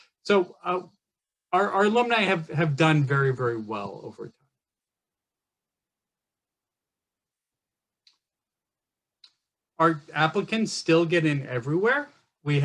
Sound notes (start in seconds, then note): 9.2 mouse clicks